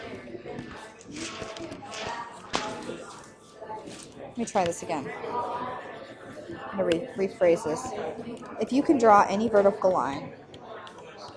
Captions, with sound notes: (papers ruffling) Let me try this again, let me rephrase this. If you can draw any vertical line